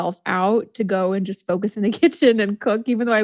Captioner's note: laughs